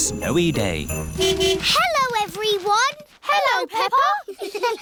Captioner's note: horn honking; giggling